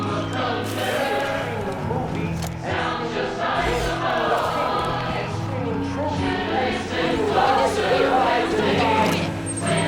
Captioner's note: yelling; rock music